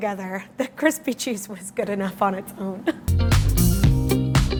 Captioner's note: laughs; funky music